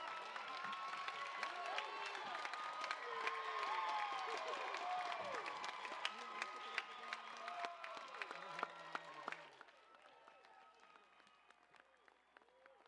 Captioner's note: applause, cheers